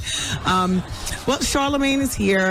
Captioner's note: laughing